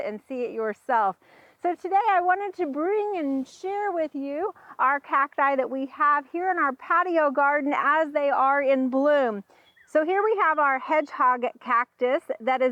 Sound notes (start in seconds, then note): none